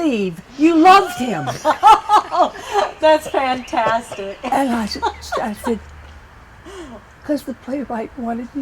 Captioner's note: laughter